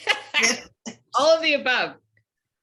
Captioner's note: laughter